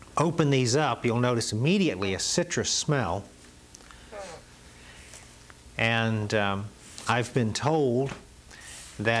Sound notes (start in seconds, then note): 4.1 tubes squeaking